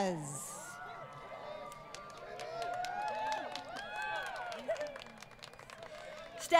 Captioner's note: crowd Cheering